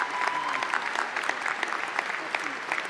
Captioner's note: applause